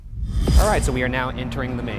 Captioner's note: air whooshing